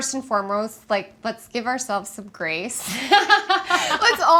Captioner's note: laughs